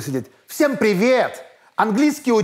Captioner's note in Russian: наигранно и громко